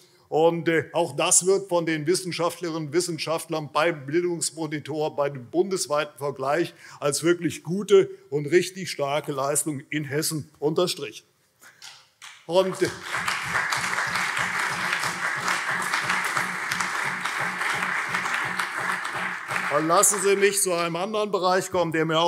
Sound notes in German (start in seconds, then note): 12.5 Beifall CDU und SPD